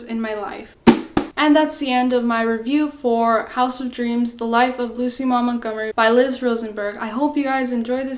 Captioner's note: slams book